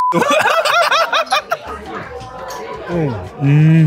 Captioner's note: both laughing